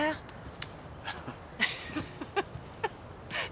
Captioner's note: chuckling